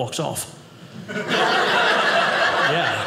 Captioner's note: audience laughing